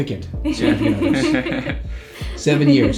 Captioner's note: laughing